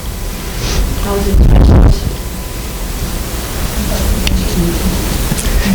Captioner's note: students mumbling